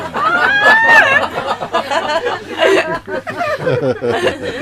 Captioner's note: laughter